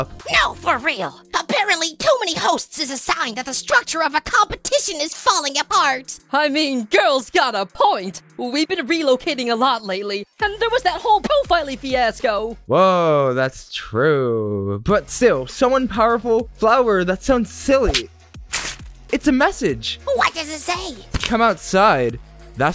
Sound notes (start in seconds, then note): 18.5 paper crumple sound